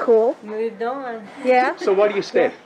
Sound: giggles

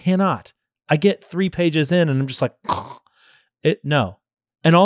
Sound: snores

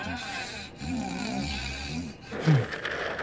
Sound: snoring continues

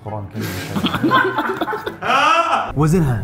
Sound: laughter

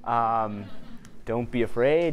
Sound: audience chuckling

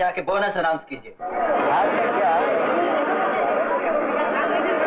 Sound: crowd Chattering

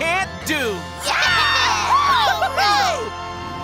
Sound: cheering

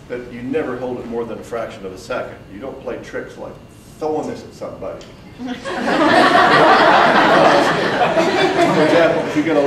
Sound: audience breaks out in laughter

